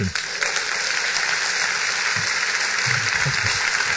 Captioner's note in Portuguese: aplausos